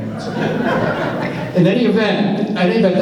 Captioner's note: laughs